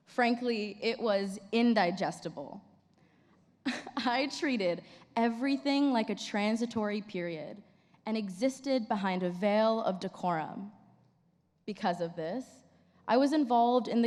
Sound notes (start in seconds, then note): 3.6 chuckles